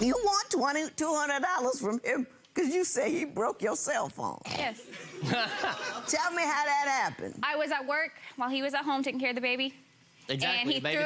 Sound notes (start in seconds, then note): 5.3 laughing